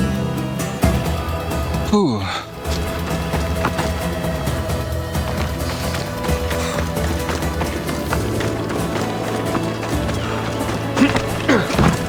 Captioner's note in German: schreien; stöhnen